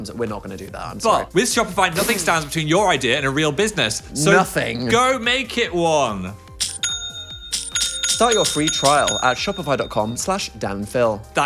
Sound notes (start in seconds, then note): 6.6 upbeat music; 6.6 cash register dinging